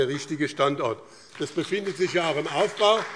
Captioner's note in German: Beifall BÜNDNIS 90/DIE GRÜNEN und CDU